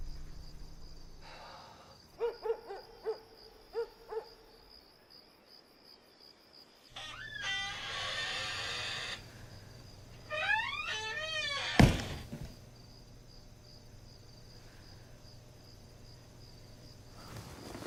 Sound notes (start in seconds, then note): 2.2 GUARD sighs. Dog barks off camera; 6.9 chair creaks; 11.8 GUARD accidentally kicks something